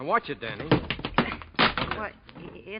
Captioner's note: door clanks